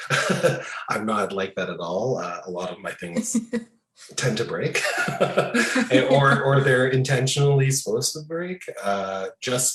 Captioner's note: both laughing